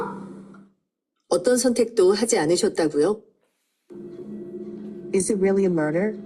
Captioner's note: speaking in foreign language